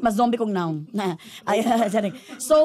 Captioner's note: laughs